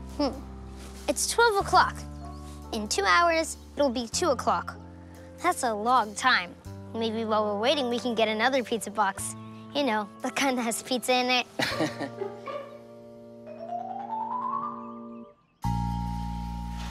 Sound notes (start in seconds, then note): 11.6 chuckling; 14.2 bright music